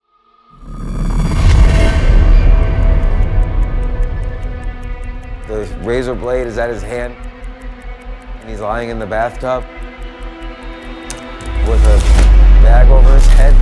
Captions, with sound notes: (haunting music) (clock ticking) - There's razor blades at his hand and he's lying in the bathtub with a bag over his head.